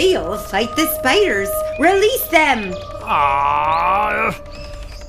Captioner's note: scuttling gets really loud